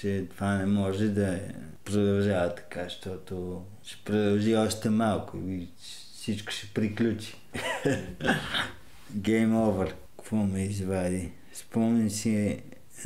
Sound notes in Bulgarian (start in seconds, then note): 7.5 смее се